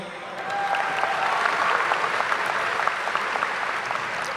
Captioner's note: audience applauding